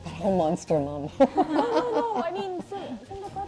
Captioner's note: laughs